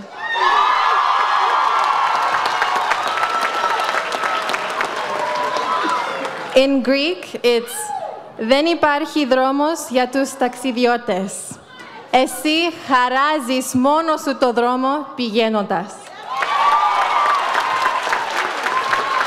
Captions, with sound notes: (audience cheers) - In Greek, it's (speaks in foreign language). (audience cheers)